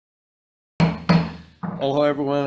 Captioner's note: gavel banging